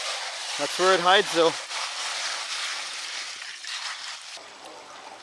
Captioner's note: gravel rattling